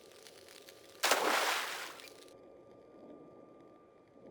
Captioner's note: splash